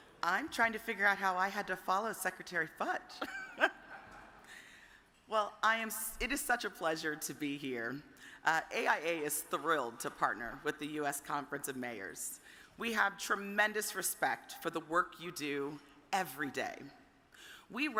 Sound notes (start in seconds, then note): 3.2 chuckles; 3.3 audience chuckles